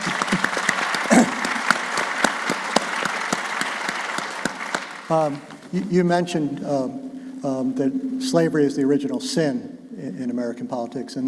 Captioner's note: applause